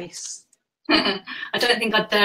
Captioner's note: laughs